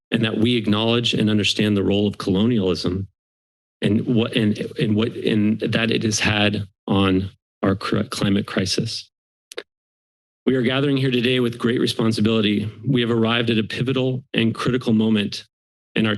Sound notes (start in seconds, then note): 8.8 silence